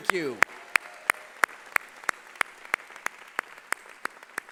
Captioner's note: applause